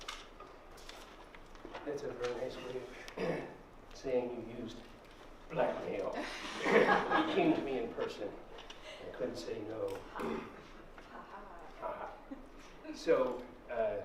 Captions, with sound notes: That's a very nice way saying you used blackmail. [laughter] You came to me in person, I couldn't say no.